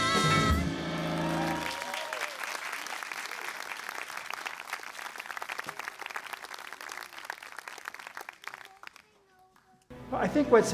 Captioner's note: applause